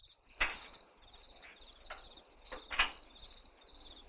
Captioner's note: crickets chirping